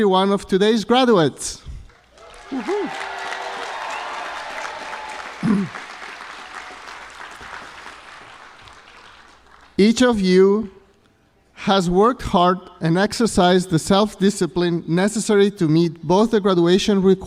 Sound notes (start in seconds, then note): 1.8 applause